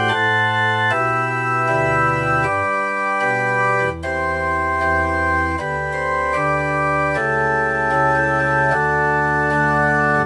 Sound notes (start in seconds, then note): none